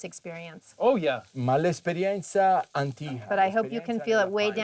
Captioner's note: speaking Italian